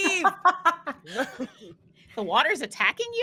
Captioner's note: laughing